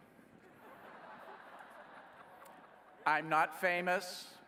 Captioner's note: laughing